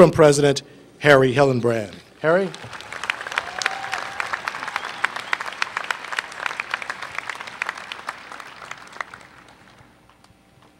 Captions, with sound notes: president, Harry Hellenbrand. Harry? [Applause]